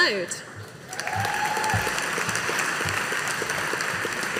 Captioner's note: audience applauding